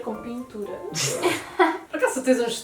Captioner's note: laughs